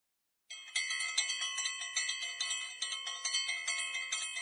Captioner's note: school bell ringing